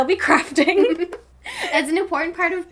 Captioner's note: both laughing